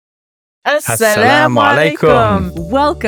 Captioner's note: speaks in Arabic